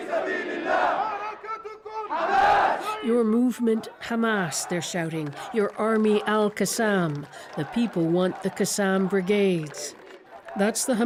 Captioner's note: chanting